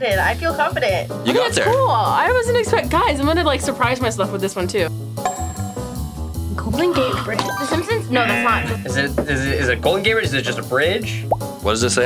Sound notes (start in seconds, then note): 0.7 upbeat music; 5.2 bell dings; 6.8 gasps; 11.3 bubble pops